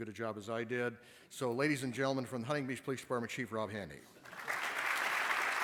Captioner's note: applause